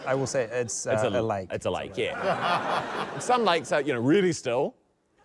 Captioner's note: laughter